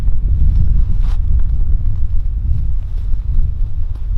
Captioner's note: hand patting